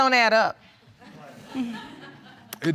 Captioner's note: audience murmuring and laughing